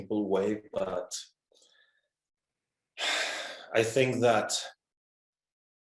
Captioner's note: exhales